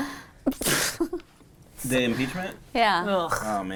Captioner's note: laughing